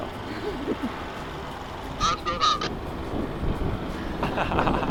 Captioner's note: laughing